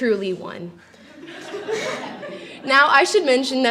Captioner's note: laughter